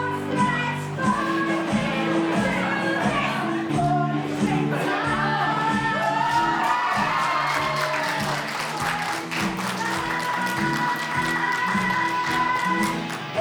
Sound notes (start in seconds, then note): 6.0 applause